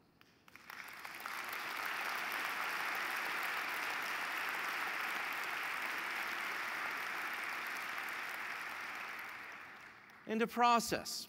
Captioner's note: applause